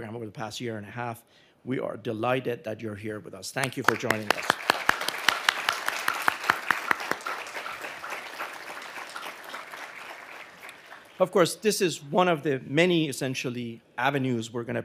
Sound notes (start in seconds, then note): 3.8 audience applauding